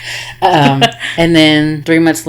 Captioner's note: laughing